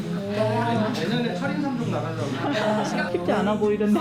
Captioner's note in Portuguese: risos